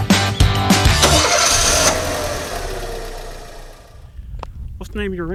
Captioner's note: car engine revs